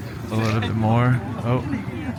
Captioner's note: people chattering